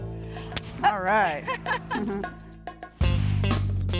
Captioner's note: laughs; upbeat music